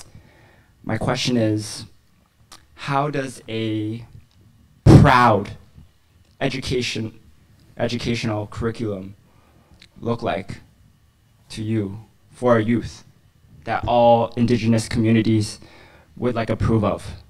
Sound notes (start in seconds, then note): none